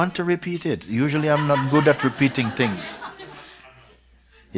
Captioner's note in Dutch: gelach